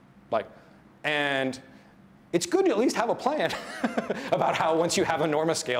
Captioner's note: laughs